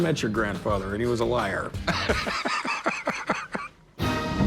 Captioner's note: laughs